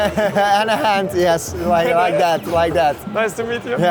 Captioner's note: laughter